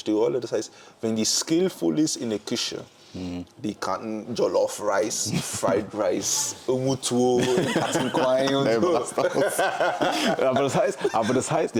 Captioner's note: gelächter